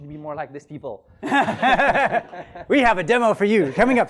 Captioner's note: laughs